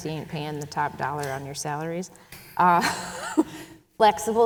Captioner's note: chuckles